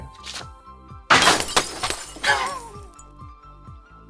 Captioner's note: glass Breaking Sound